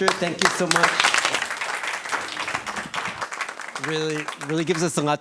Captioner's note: applause